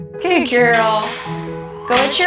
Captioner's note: door clanging shut